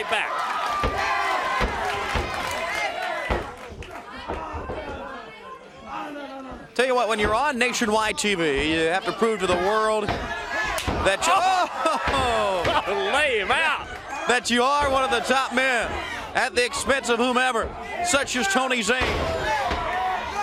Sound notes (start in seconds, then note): 1.8 crowd chatter